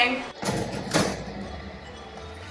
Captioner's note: pan clunking; happy music